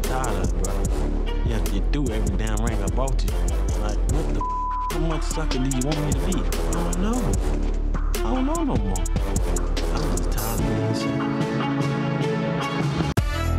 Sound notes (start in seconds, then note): 4.4 beep; 11.8 anxious violin music